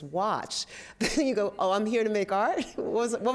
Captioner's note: laughs